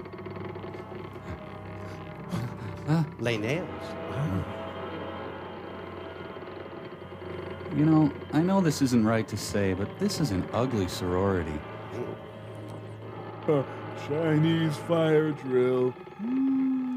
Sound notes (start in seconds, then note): 0.4 moaning